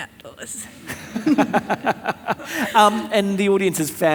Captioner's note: all laughing